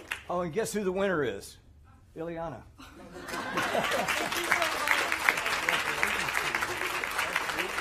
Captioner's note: applause